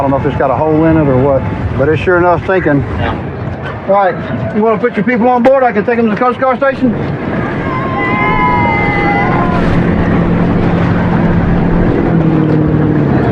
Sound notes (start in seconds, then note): 7.4 cheerers